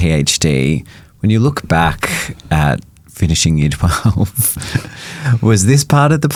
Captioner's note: chuckling